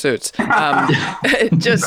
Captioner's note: all laughing